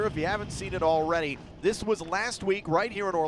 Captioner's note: none